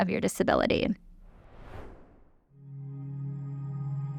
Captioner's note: air whooshing; gentle music